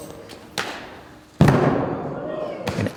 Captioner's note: body hitting mat